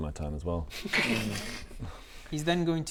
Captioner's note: laughs in BS